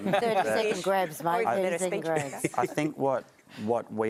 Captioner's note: laughter